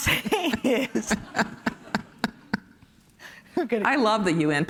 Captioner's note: laughs